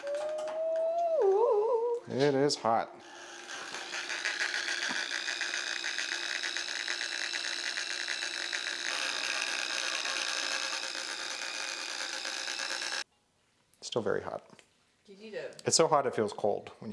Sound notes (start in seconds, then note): 3.7 machine motor hums